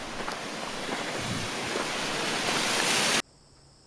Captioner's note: rushing water